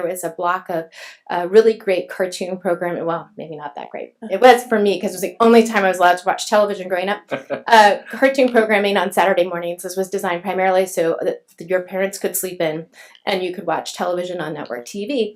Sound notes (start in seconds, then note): 7.3 laughs